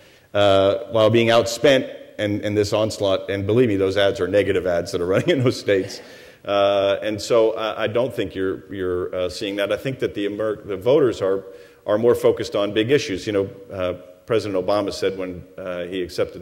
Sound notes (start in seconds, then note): 5.1 chuckles